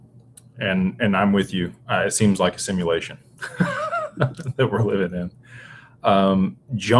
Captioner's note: laughter